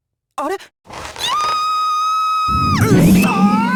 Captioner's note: panicked scream